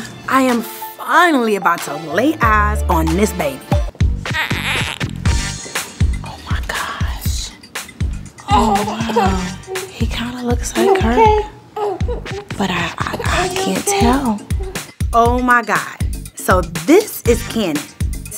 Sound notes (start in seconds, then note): 4.3 cooing